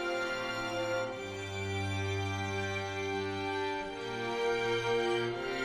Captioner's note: none